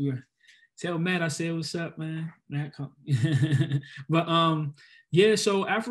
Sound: laughs

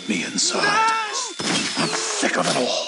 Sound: shouts

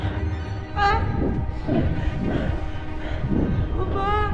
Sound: electronic warbling; Vanina whimpering

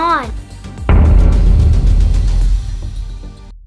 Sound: boom

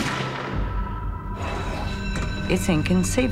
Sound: alarm ringing

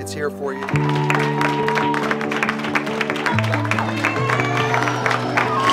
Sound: people applaud and cheer

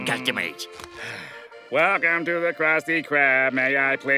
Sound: sighing

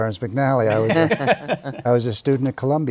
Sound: laughter

